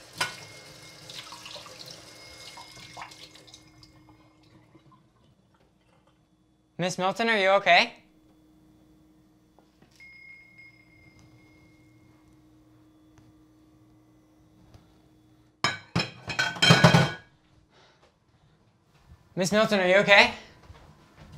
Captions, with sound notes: (Bell continues outside) Miss Milton are you okay? (Bell continues) (Plates clanking) Miss Milton are you okay?